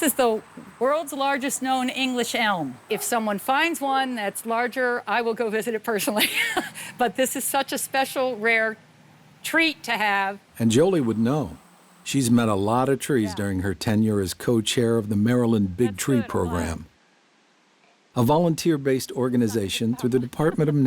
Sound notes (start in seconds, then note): 6.1 chuckles